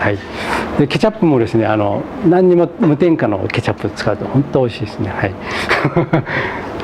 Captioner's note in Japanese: 笑い